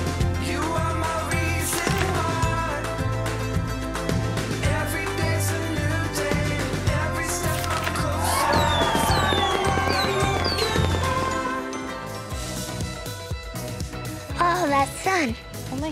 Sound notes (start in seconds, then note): 7.5 fireworks popping and screaming; 12.8 upbeat music